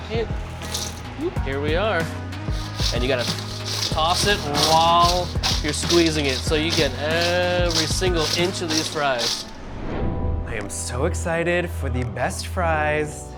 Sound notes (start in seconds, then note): 2.5 fries clanking; 9.8 air whooshing